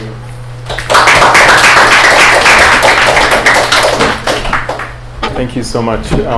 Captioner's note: applause